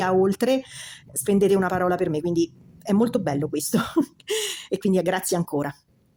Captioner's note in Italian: risate